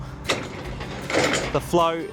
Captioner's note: mechanism whirring